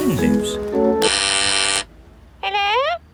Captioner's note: doorbell ringing; over intercom